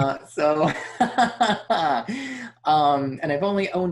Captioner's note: laughs